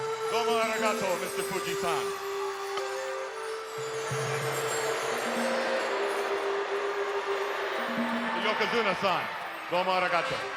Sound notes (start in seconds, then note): 4.8 audience jeering